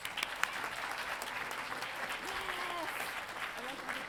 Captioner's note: audience applauding